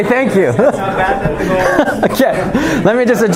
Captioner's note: chuckling